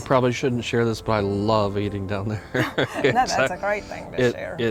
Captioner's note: chuckles